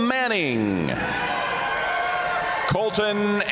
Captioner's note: audience cheering and applauding